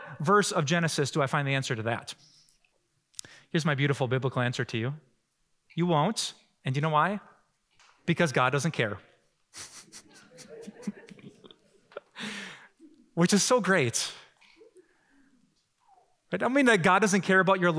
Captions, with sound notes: of Genesis do I find the answer to that. Here's my beautiful, biblical answer to you. You won't. And you know why? Because God doesn't care. [Laughing] Which is so great. But that doesn't mean that God doesn't care about your life